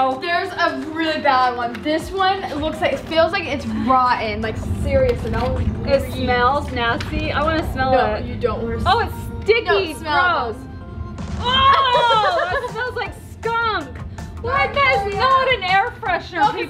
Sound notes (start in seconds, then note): 11.5 laughs